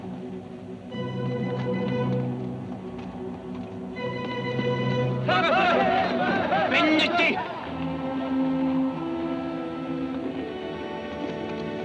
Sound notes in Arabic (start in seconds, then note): 5.3 صراخ الأباتشي; 7.1 ديلجاديتو يتحدث لغة أجنبية; 9.1 موسيقى متوترة